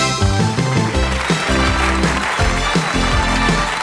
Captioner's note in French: Applaudissements